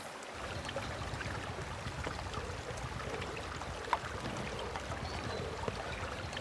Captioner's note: running water